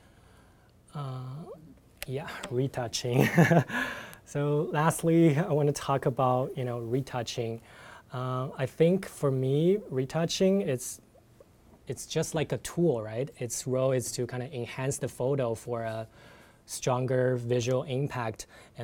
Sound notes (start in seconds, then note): 3.1 laughs